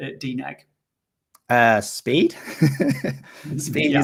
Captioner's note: laughs